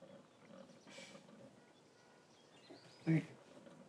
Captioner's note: Kimberly huffs